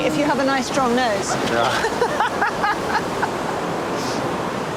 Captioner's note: laughs